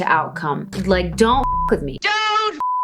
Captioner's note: beep